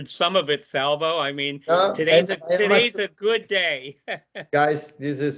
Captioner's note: laughing